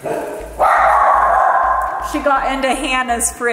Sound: dag barking

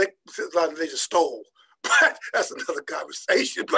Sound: laughing

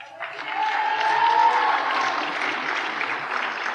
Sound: applause

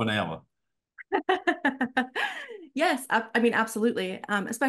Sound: laughter

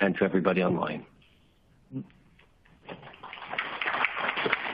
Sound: applause

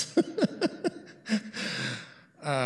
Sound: laughs

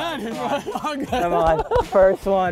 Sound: laughing

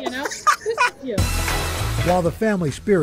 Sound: laughter

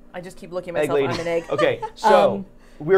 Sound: laughing

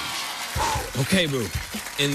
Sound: exhales

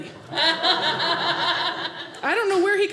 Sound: audience laughing

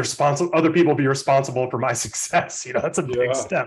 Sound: chuckles

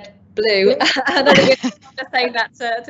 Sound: all laughing

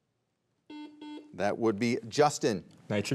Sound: buzzer beeps twice

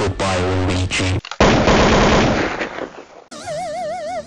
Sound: the sounds of murder

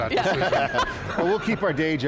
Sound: group laughing

